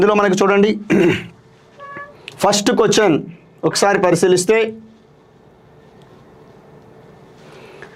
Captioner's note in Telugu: గొంతు సవరించుకోవడం